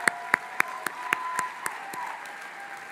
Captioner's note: applause; cheering; applause